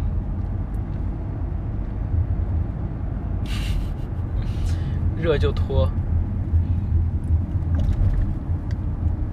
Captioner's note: laughs in despair